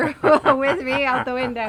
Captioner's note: man laughs